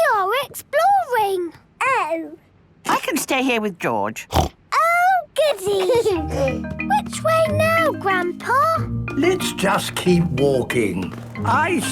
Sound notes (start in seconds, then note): 4.3 snorts; 5.5 George giggles